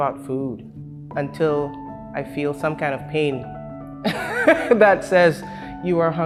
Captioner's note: laughs